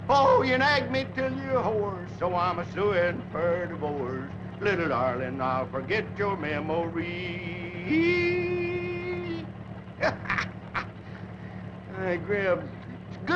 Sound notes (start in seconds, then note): 10.0 laughing